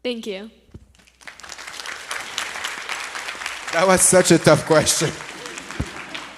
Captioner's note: audience applauds